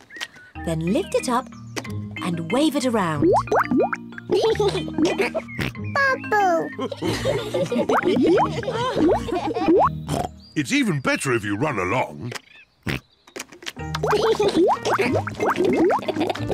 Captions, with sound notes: then lift it up and wave it around. (LAUGHS AND SNORTS) Bubble! (ALL LAUGH) (OINKS) It's even better if you run along. (OINKS) (LAUGHS)